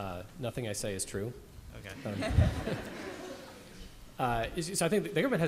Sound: laughter

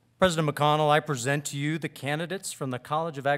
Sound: none

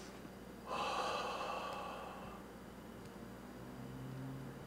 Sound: Cathelaya sighs

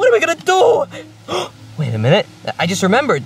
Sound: gasps

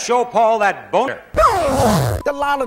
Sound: loud unzipping

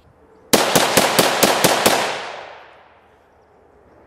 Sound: rifle fires

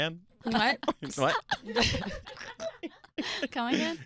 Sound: laughing

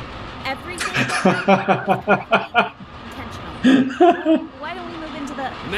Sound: Musky scoffs; Musky laughs

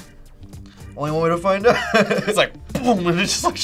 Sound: laughs

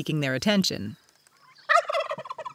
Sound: turkey gobbles

